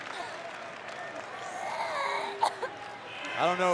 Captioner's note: Asuka coughs